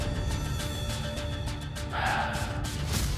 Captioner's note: sighs